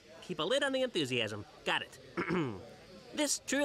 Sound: ahem

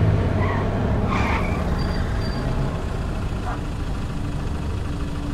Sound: tires screeching

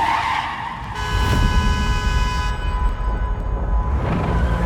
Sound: tires screech; white car honks, echoing

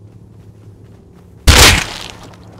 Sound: bam

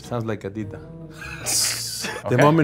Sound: laughs

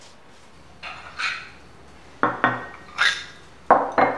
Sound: plates sound

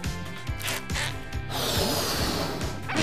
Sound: inflating

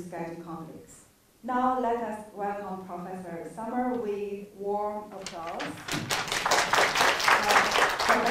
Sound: applause

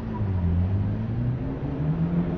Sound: train Noises

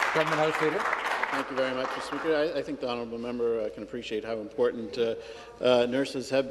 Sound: some Applause

